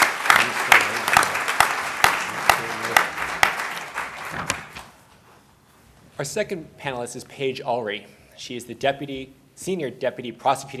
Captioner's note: applause